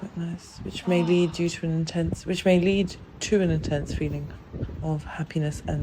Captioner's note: exhale